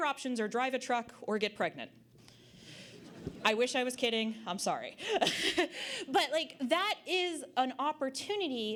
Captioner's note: audience Laughter